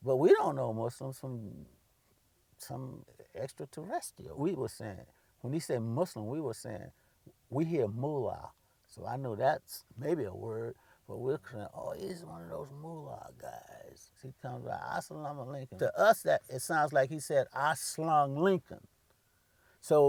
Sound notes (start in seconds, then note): 14.3 foreign language